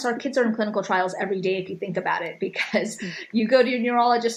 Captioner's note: chuckles